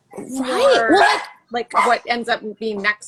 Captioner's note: dog barking